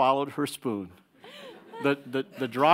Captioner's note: audience laughing